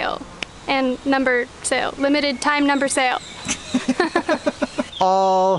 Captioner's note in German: Gelächter